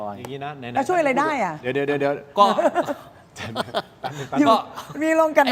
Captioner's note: laughter